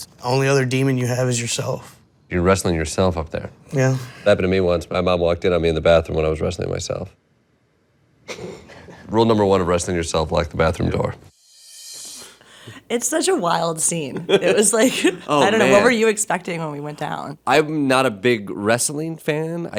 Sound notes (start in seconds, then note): 8.3 chuckling; 11.2 ringing; 13.9 laughing